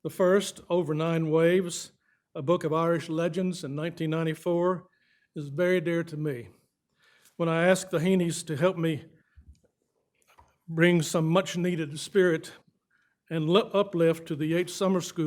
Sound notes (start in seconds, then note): none